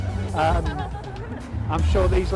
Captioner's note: giggling